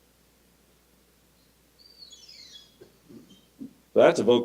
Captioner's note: oropendola call